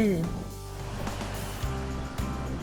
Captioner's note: engine noise; upbeat music